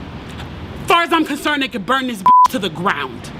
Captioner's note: beep